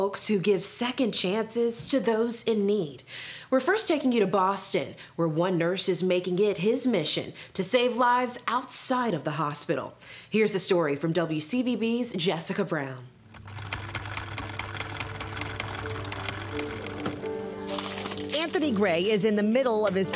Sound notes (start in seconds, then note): 13.3 film reel rolling